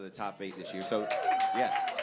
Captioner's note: applause